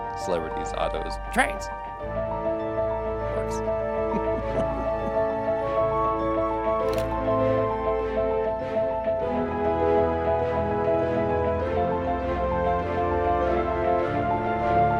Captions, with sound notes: Celebrities, autos, TRAINS! It works. [laughs] [camera shutter click] [orchestral music]